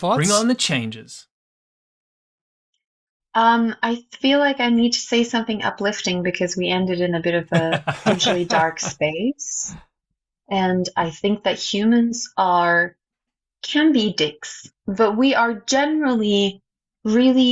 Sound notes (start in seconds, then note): 15.1 laughter